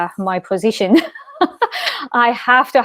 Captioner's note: laughs loudly